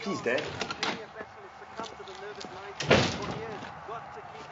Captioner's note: slams